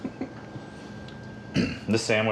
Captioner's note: laughing